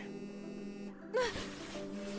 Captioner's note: phone vibrates